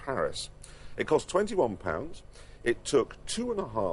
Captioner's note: none